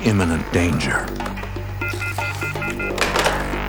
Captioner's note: busy signal